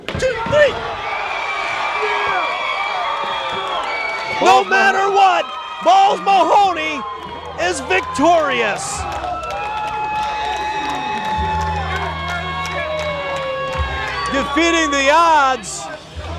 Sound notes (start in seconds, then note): 9.2 fans cheer; 10.5 cheering continues